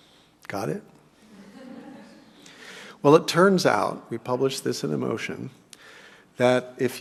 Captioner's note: laugh